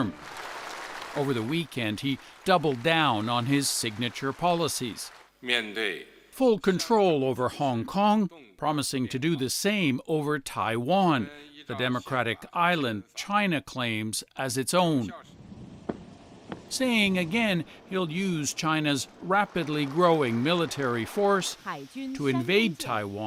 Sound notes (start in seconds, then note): 8.6 speaking alternate language